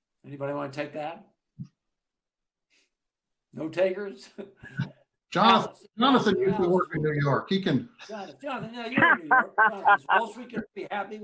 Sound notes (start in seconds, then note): 8.9 laughter